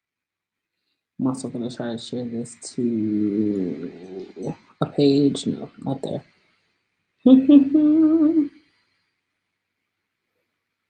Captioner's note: hums